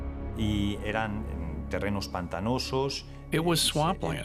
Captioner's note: speaking Spanish